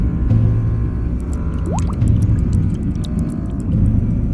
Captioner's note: underwater bubbling